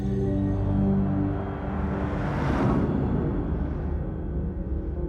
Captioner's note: logo whooshes